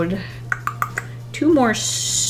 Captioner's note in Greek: Ήχος με την γλώσσα